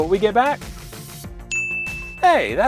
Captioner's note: ding!